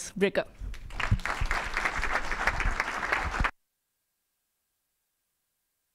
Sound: audience applauding

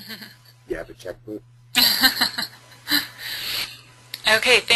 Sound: laughing

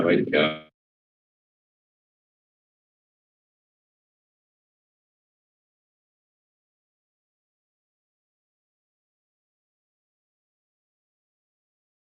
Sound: silence

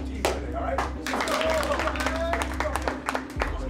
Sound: cheering

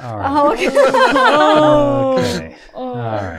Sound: all laughing

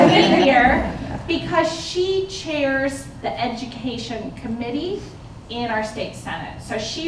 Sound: laughter

